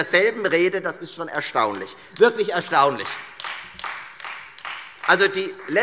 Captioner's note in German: Beifall